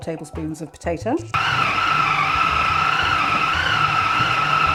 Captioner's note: food processor whirring